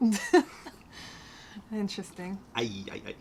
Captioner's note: laughter